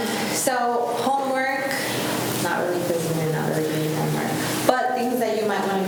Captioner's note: faintly speaking